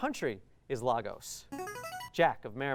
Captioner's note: ringing